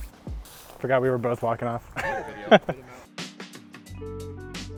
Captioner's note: laughs